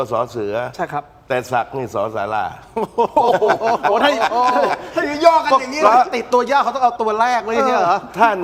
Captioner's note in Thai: เสียงหัวเราะ